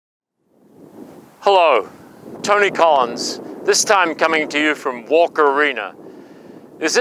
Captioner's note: Australian accent